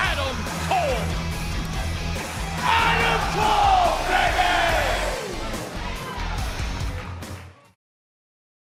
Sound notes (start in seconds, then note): 3.9 fans chanting